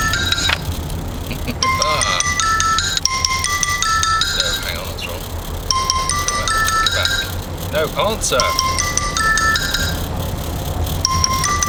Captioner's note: phone rings